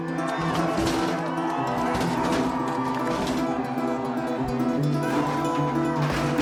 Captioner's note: crowd cheering; statue clanging